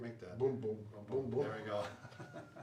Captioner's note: laughs